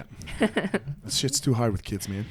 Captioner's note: laughs